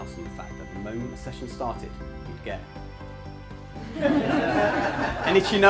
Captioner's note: speaker twitches nose to much laughter from the audience